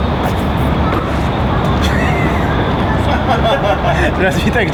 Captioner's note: laughing